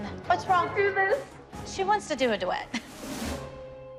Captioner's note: chuckles